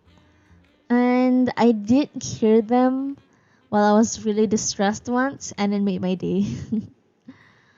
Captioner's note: laughs